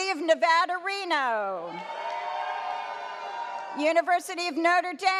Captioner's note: audience cheers